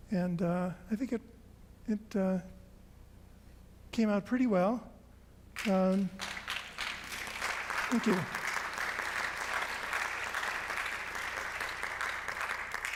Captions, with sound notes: And I think it came out pretty well. (audience applauds) Thank you.